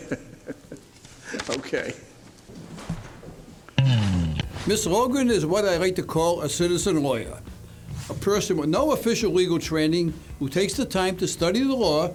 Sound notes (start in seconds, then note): 2.2 laughing; 5.1 upbeat music